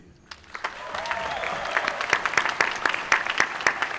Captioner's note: applause